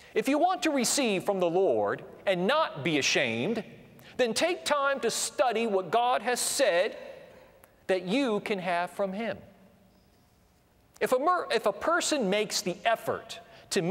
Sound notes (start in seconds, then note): none